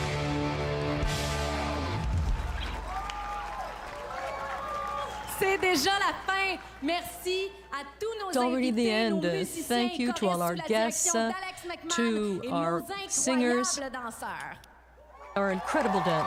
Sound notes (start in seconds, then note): 5.1 cheers and Applause; 13.8 speaking French